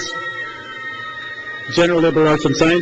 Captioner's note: crowd cheers